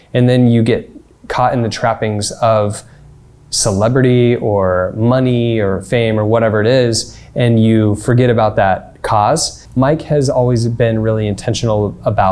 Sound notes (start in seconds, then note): none